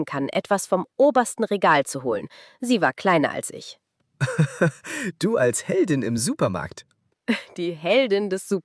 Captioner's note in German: gelächter